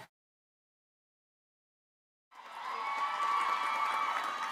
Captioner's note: applause